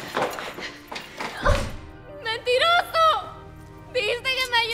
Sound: Spanish

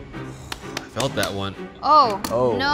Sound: tapping rapidly on egg

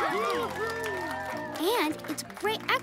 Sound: cheering

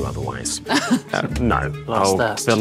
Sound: Amita chuckles

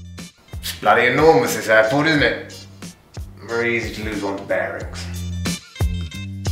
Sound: in posh accent

